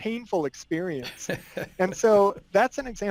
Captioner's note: laughing